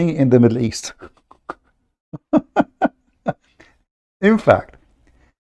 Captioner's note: Ketawa